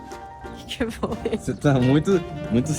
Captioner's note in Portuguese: risos